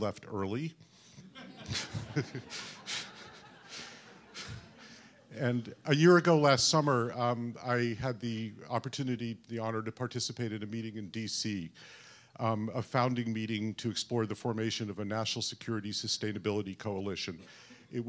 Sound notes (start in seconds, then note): 1.2 laughter